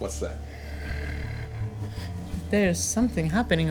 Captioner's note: growling